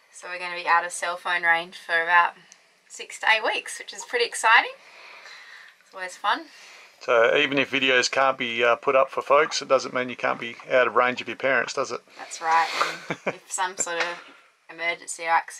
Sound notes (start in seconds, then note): 12.5 laughs